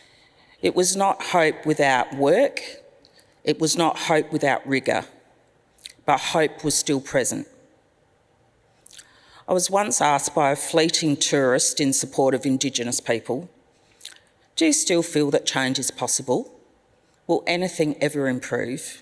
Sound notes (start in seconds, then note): none